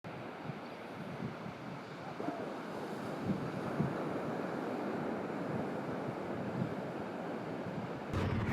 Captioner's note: ocean waves and wind audible through entire video